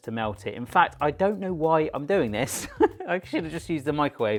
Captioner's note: laughs